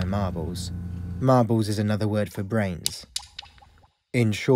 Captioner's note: marble dropping